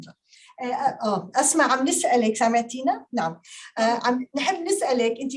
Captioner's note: speaking Arabic